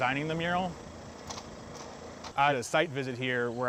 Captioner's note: ladder clacking